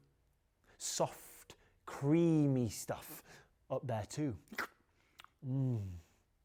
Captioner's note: slurps